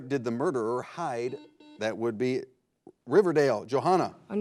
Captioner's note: buzzer blares